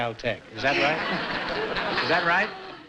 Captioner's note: laughter